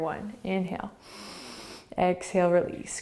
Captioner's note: inhaling